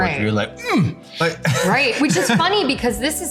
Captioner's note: groaning